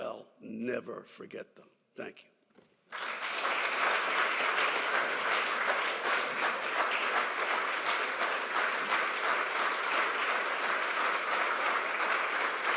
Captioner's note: applause